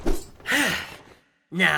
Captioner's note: sigh